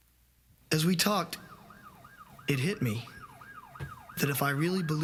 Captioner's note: siren blaring